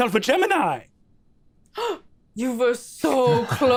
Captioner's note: gasps